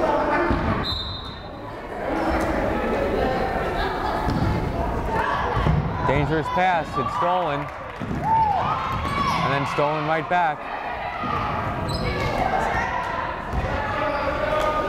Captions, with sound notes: (whistle blows) Dangerous pass, it's stolen. And then stolen right back.